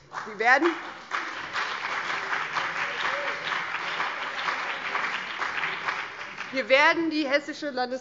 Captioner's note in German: Beifall BÜNDNIS 90/DIE GRÜNEN, CDU, vereinzelt SPD und DIE LINKE